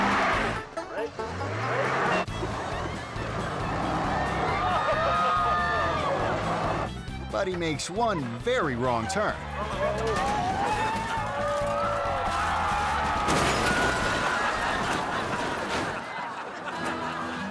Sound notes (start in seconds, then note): 0.0 men laughing; 0.0 truck revving; 0.0 tires spinning; 0.3 twangy music; 2.8 tires spinning; 2.8 twangy music; 4.1 spectators laughing; 7.0 twangy music; 12.1 spectators moaning; 12.1 truck crashing; 13.7 spectators laughing; 14.0 audience laughing